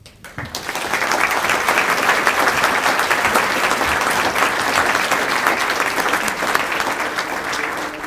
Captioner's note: applause